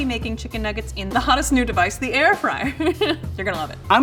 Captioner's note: laughs